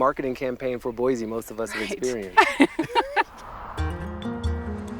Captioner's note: laughs; car engine roaring; gentle music